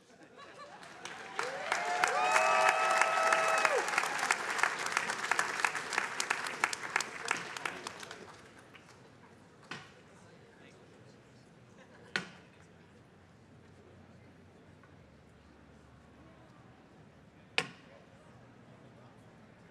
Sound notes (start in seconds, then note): 0.6 attendees cheering and applauding; 9.7 walking stick thudding